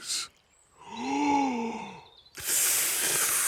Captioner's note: takes big breath and blows